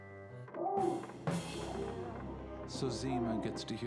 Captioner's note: moaning